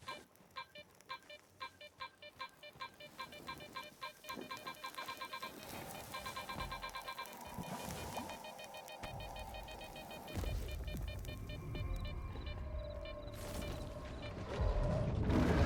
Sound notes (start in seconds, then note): 0.5 exam Epstein beeping; 7.6 beeping